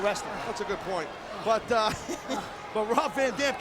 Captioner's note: laughs